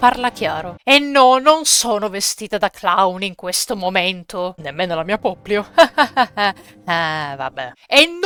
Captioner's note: nervous laugh